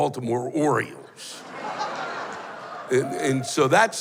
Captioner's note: laughter